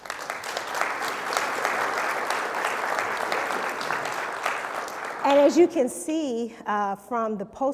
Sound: applause

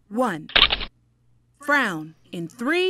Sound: shutters click

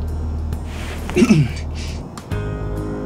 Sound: clears throat

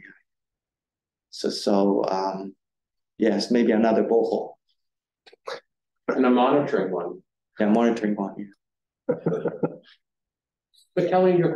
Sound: audience chuckling

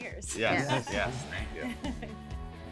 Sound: laughs

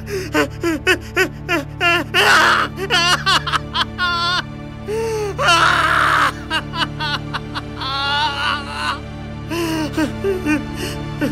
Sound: cries

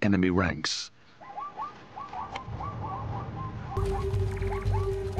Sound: zebras barking

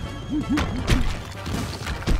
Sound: crumbling

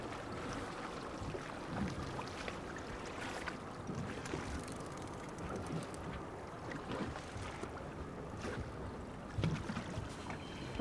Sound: reel cranking

